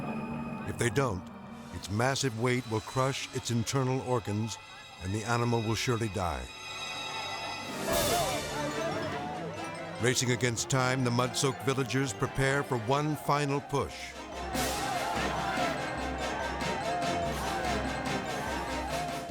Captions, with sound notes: If they don't, its massive weight will crush its internal organs and the animal will surely die. (dramatic music) Racing against time, the mud soaked villagers prepare for one final push. (villagers shouting)